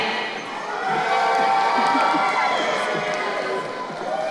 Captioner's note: crowd cheering